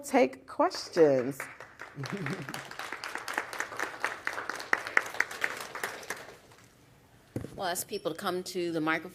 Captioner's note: applause